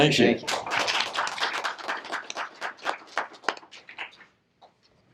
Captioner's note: applause